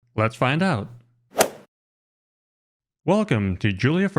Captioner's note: golf swing sound effect